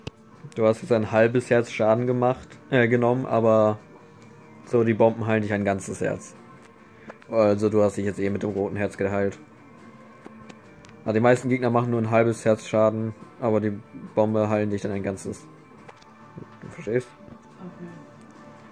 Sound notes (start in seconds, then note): none